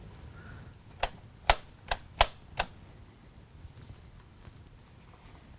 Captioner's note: light switch clicks